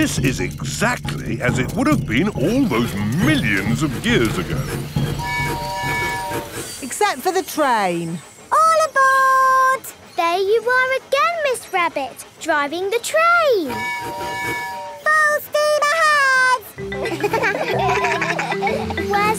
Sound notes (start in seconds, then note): 5.2 train tooting; 13.6 tooting; 16.8 kids laugh